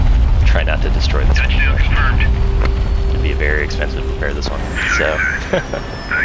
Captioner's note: laughs